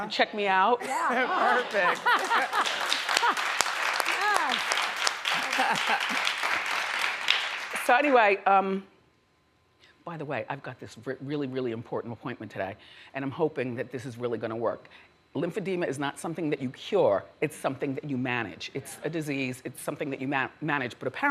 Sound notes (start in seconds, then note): 1.0 audience laughs; 1.4 audience applauds